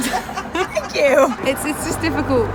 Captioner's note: laughter